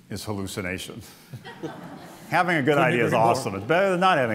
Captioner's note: laughter